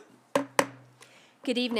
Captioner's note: gavel hitting dais twice